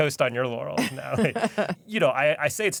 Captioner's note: laughs